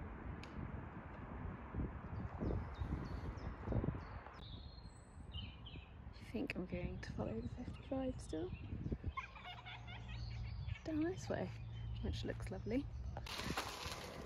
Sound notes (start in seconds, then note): 9.0 sound of bird song and chatting in the background